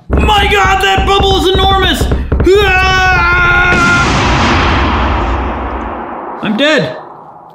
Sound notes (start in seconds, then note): 3.8 explosive sound